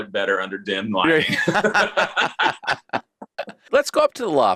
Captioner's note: laughing